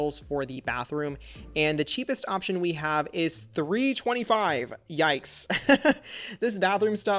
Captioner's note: laughs